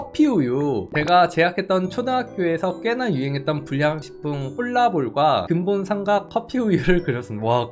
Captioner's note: voiceover